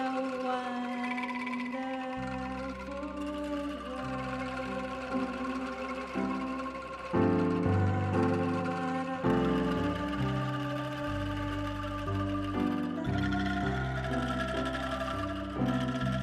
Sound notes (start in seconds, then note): 8.3 humming; 13.3 melodious music